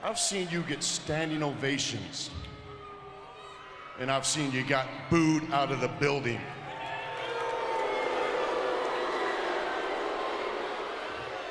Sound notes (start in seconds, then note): 7.0 crowd booing